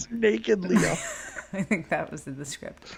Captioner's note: laughs